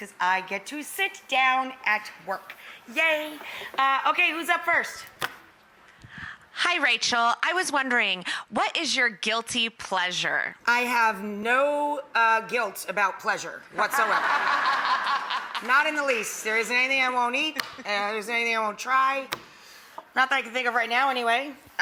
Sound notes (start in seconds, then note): 13.8 audience laughing